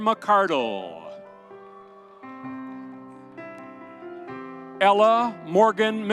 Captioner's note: audience cheering